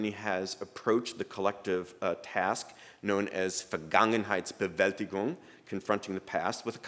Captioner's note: speaking german